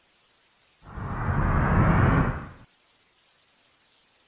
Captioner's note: whoosh